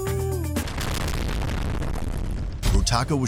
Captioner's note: massive explosion, again